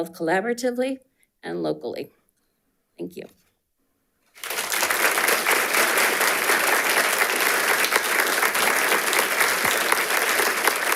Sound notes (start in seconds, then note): 4.3 audience applauding